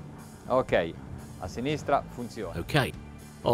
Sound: speaking in foreign language

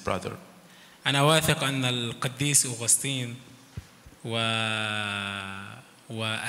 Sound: speaks in foreign language

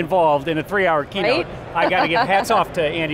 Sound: laughs

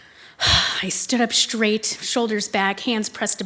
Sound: sighs

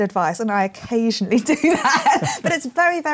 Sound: laughs

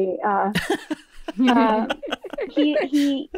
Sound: all laughing

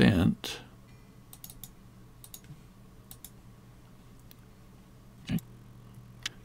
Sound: clicking

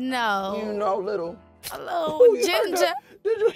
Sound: snapping

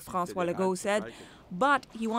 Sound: speaking french

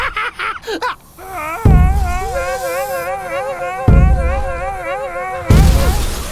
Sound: cackling; cobras exclaiming; booming; crashing

